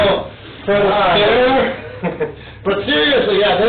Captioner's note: laughs